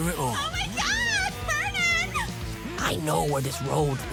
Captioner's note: squeals